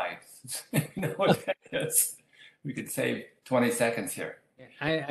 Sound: laughs

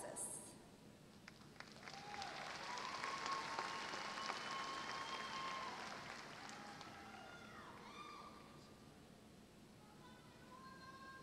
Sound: applause

